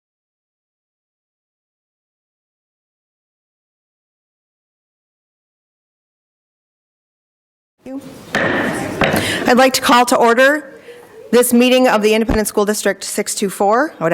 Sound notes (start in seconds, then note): 8.3 gavel taps